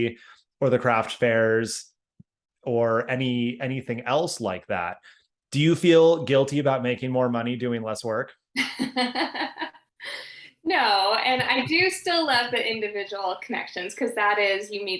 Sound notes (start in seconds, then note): 8.8 laughing